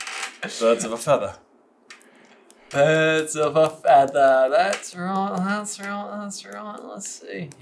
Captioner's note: accented